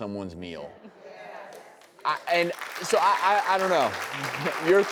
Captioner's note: applauds